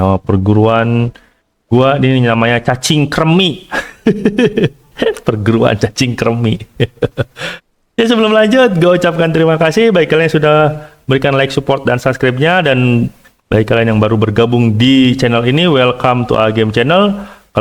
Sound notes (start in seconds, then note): 6.7 laughs